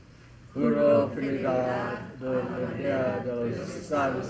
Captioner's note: speaking in Spanish